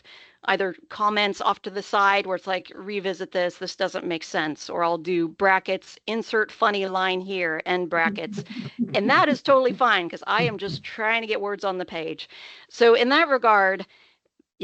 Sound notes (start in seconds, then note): 8.0 chcukling